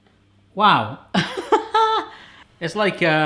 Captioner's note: laughs